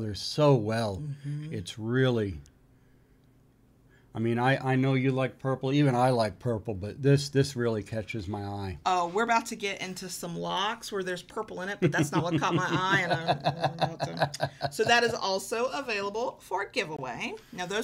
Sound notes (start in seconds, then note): 11.8 laughing